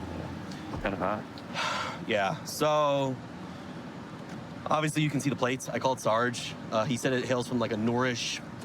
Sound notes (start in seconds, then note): 1.5 sighs